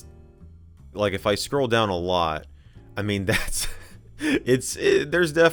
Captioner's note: laughs